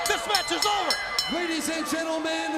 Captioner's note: bell ringing